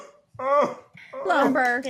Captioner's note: sobbing